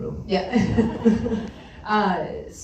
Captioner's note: laughs